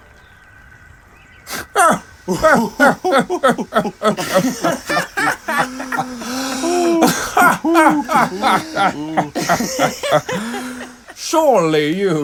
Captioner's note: burst into laughter